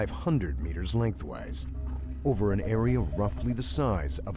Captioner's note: voiceover